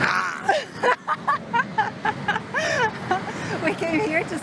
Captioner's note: laughs